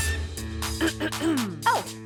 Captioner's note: clearing throat